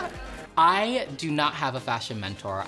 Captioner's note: laughing